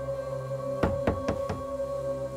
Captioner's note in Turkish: Kapı çalıyor